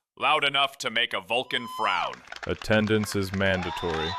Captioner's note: cheers